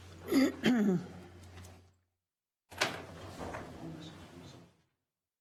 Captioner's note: clears throat